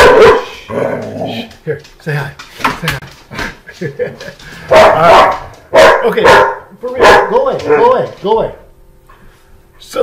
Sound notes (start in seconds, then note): 2.5 laughs; 5.6 dog barks